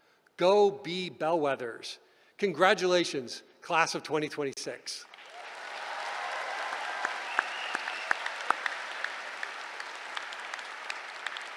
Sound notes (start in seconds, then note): 5.0 applause